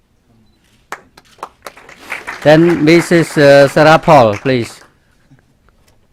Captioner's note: clapping